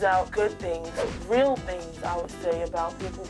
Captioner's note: swishing sound